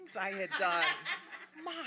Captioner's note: audience laughing